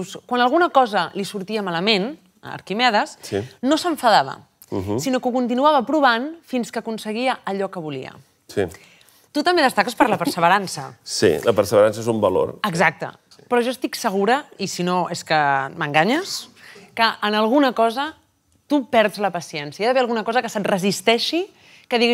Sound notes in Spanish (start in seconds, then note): 10.8 ríe